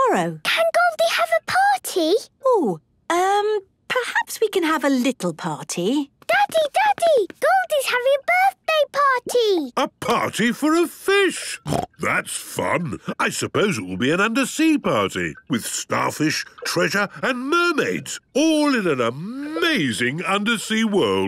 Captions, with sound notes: - Can Goldie have a party? - Oh. Um, perhaps we can have a little party. - Daddy, Daddy, Goldie's having a birthday party! - A party for a fish! (snorting) That's fun. I suppose it will be an undersea party, with starfish, treasure and mermaids, all in an amazing undersea world.